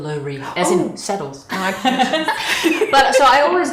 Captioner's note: both laughing